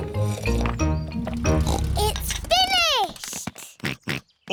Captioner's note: slurping; george oinks; oinks